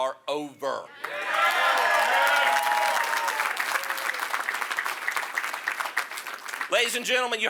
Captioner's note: applause